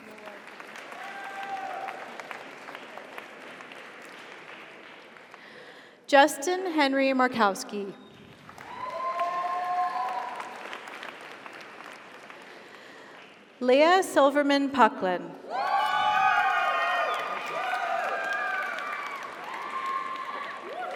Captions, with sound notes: (audience applauds) (audience cheers) Justin Henry Markowski. (audience applauds) (audience cheers) Leah Silverman Pucklin. (audience applauds) (audience cheers)